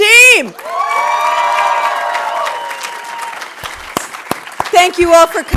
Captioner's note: audience cheering and applauding